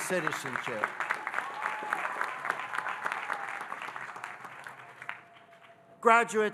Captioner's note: audience cheering and applauding